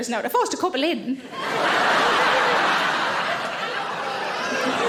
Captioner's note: audience laughing